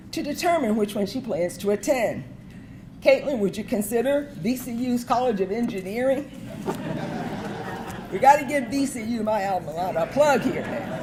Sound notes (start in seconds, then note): 6.3 audience laughing